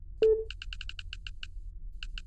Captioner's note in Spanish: Pitido